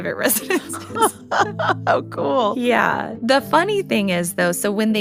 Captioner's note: laughs